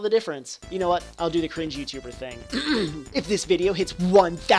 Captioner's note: clears throat